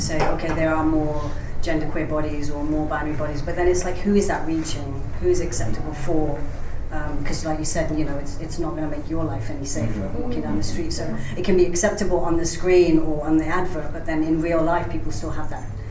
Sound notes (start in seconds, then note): none